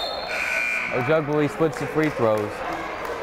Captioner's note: buzzer blaring